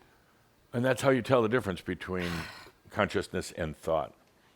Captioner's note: sighs, trying to spell it correctly